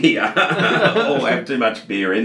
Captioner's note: both laughing